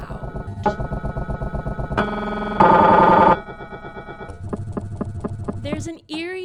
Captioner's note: MRI banging noises